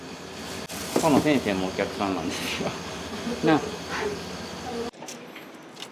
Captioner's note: laughs